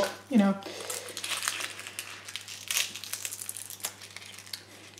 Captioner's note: onion skin scronches